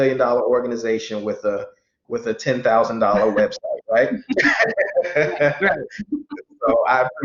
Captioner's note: laughs